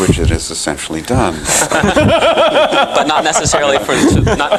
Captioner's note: laughter